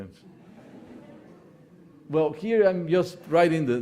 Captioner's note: audience laughing